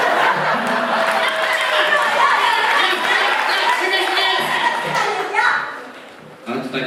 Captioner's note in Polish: Aplauz